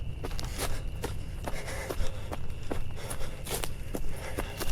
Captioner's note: heavy breathing